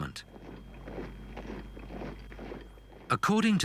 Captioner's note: boots thudding